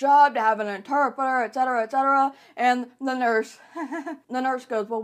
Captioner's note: laughing